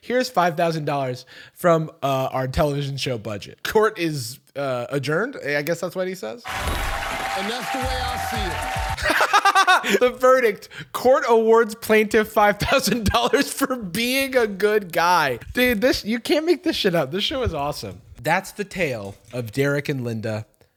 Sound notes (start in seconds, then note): 6.4 crowd cheering; 8.4 laughs